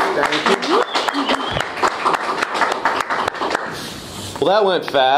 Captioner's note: applause and cheering